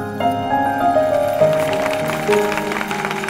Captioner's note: Everyone clapping